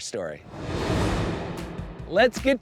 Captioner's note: graphics whooshing